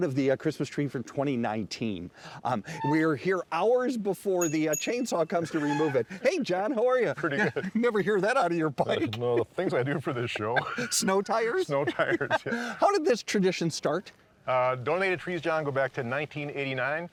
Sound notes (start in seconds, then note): 7.0 laughing